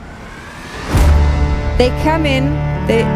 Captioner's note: screen whooshes